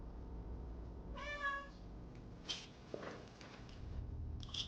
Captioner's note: meowing